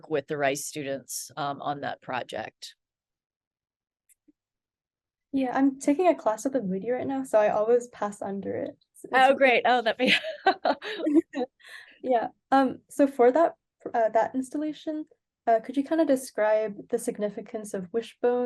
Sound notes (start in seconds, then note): 10.1 laughs